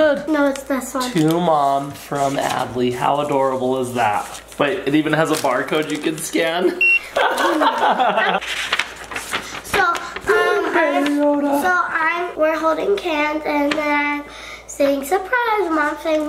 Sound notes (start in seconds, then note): 6.7 scanner beeps; 7.0 laughs